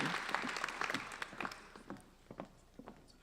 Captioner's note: applauding